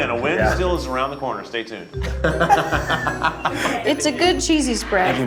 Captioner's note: group laughs